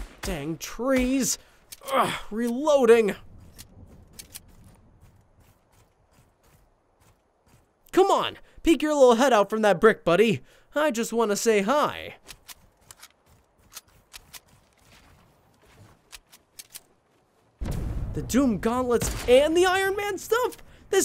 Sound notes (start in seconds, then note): 13.6 gun clicking